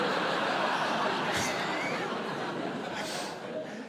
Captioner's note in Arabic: ضحك; يضحك